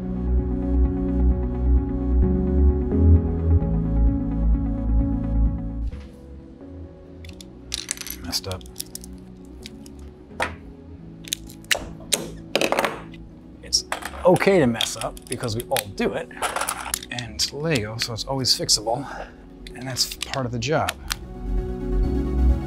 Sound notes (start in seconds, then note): 0.1 light music; 7.7 Legos click; 11.7 tool drops on table; 16.3 Legos click; 20.1 Legos snap together